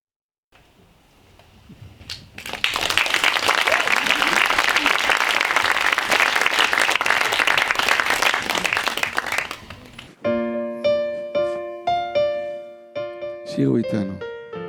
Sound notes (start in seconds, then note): 2.0 audience applauding; 10.0 piano music